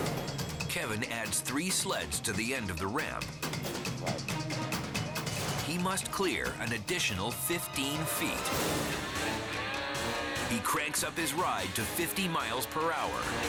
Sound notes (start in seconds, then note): 3.7 suspenseful music; 8.4 engine revving